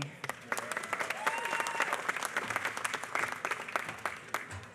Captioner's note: applause